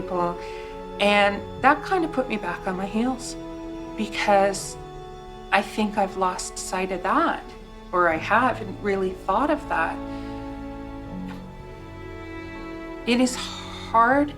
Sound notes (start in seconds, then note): none